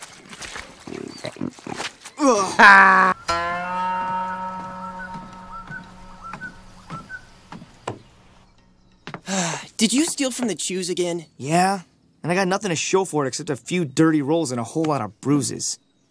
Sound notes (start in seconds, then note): 2.2 groans in disgust; 2.2 laughs mockingly